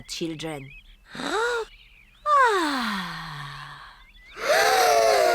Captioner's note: breathes deeply; all breathe deeply